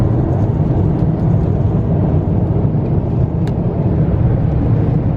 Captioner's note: engine whines softly